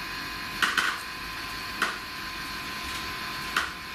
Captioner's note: tapping